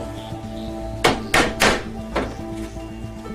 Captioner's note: hammering